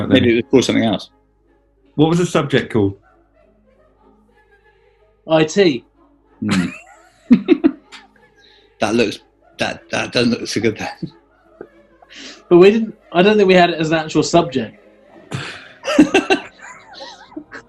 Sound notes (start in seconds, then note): 6.4 sniggering; 15.2 giggling